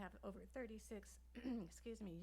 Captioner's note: clears throat